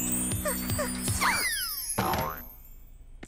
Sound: thudding

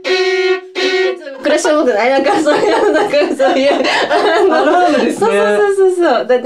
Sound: laughs

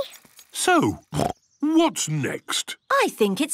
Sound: snorts

